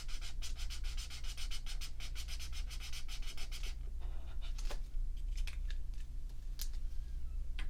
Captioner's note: marker sounds